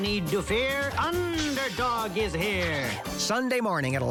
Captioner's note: chitters